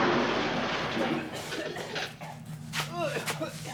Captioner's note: coughing